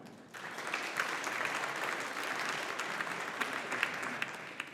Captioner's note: audience applauding